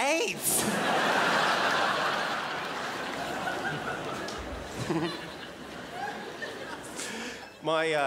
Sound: crowd laughs

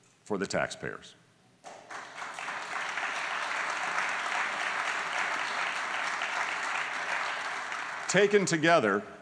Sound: applause

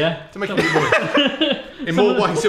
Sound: laugh

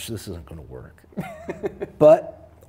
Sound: laughs

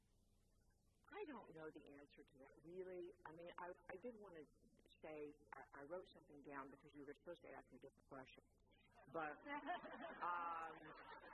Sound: laughter

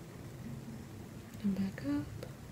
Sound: quietly, mumbling

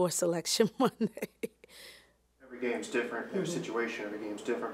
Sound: laughing

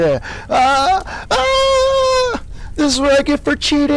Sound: chuckling; screaming

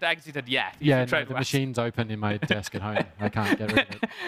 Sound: laughing

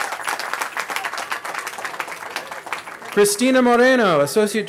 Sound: cheering

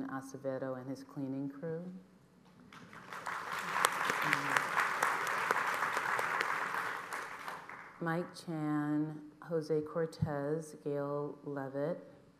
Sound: applause

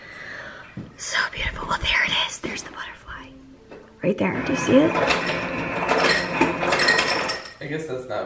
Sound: ice maker sound in background

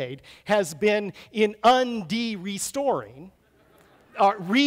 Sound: audience laughs

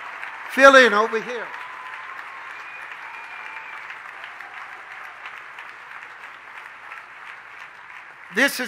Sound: congregation cheers

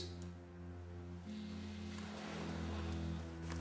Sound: phone vibrates

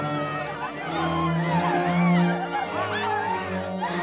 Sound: women screaming

